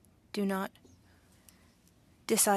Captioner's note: speaking French